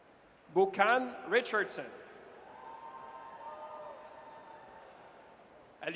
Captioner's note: audience cheers